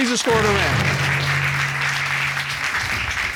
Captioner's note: applause